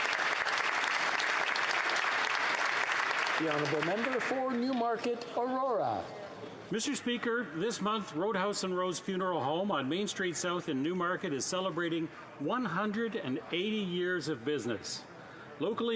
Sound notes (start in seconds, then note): 2.1 applause